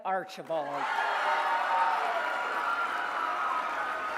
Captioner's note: cheering and applause